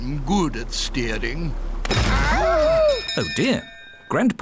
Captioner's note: clattering; bell ringing